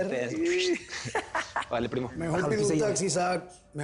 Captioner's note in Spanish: Risas